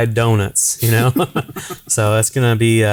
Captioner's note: laughing